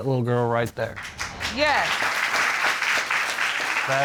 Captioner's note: applause